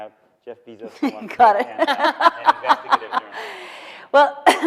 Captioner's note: laughs